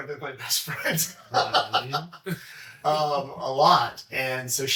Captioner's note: laughs